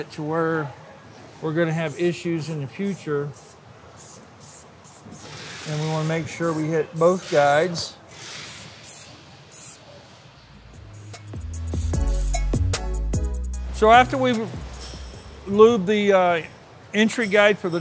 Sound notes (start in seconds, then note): 4.0 spray can hissing; 10.8 upbeat music